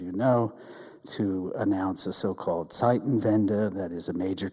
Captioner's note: speaks in German